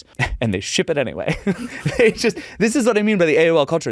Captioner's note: laughs